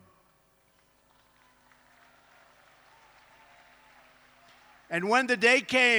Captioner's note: applause